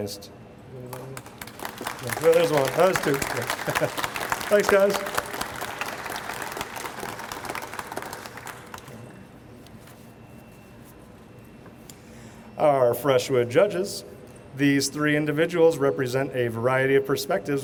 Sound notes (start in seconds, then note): 0.2 audience applauds; 3.0 laughs